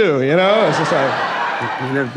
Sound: laughing

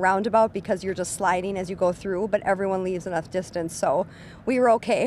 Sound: wind blowing

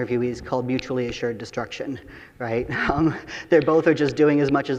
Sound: chuckles

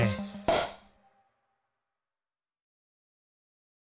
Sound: champagne bottle popping

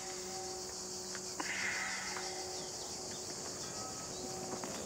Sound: sighs

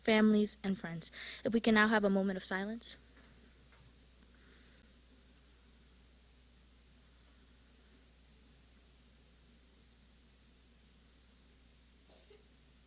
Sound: silence

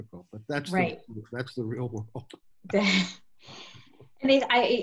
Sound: laughs

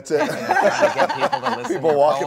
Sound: everyone laughs

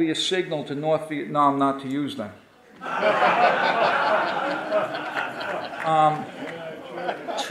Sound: audience laughing

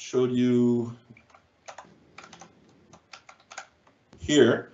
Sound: keyboard keys tapping

